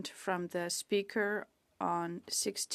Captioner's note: speaking French